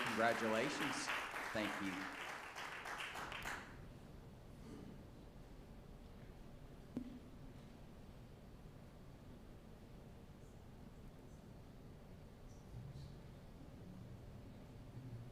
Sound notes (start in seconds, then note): 0.0 applause